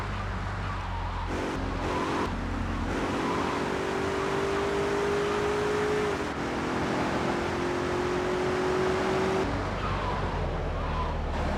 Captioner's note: sirens wailing